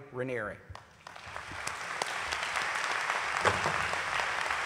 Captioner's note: applause